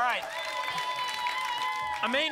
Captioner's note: applause and cheering cont